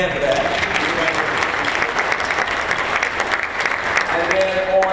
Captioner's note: applause